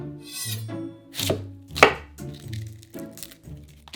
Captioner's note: knife chopping